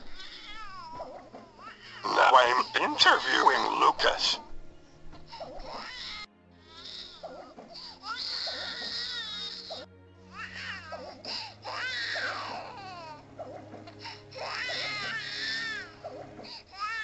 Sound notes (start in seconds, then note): 0.0 baby crying; 4.5 more crying